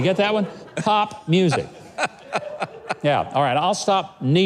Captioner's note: man laughing